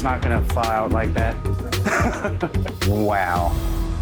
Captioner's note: chuckling